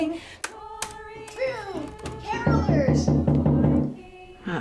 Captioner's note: knocking on door